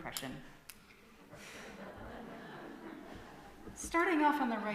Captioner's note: laughter from congregation